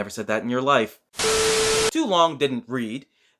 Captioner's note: Static